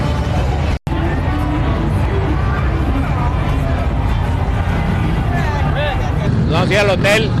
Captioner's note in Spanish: voces